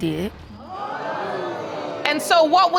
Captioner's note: audience exclaiming